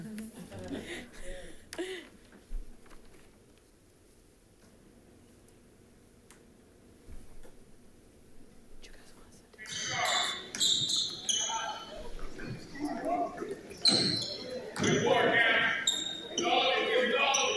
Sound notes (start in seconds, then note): 0.3 people chuckle; 9.6 shoes squeaking; 14.7 coach calling